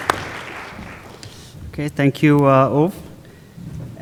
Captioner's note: applause